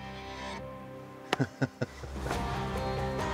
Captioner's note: chuckling